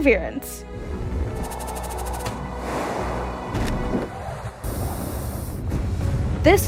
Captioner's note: rover whooshes through space